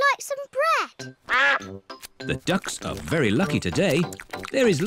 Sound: quacks

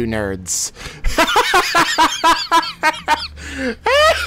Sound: laughs

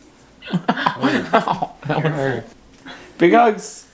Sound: laughs

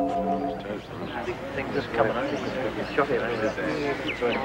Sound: group chattering

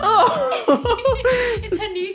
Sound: couple laughing

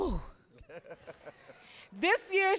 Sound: audience laughing

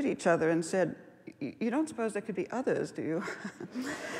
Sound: laughs

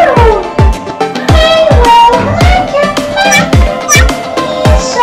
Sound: meow! Meow!

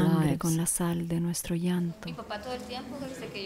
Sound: speaking Spanish

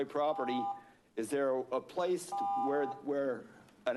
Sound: beeping; beeping

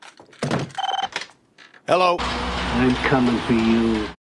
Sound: phone rings

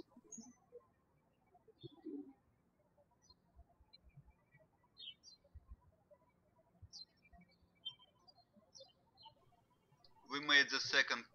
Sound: birds chirping

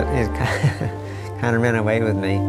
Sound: laughs

